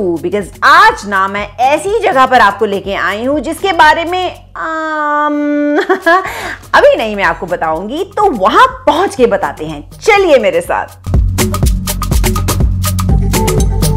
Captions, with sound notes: I've brought you to such a place which is... ummm.... (giggles) I'll reveal it once I reach there.... Come with me.